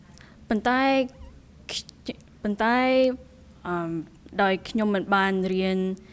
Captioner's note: speaking in a foreign language